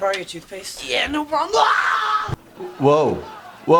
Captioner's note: screams